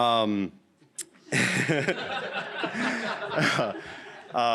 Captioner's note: laughter